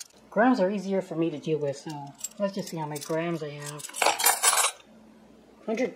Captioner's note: sound of flatware crashing onto scale